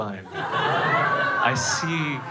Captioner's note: crowd laughing